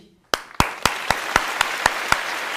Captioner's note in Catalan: Aplaudiment